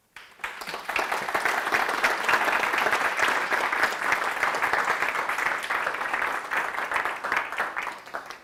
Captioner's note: applause